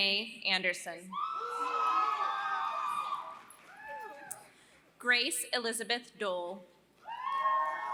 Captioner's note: applause; applause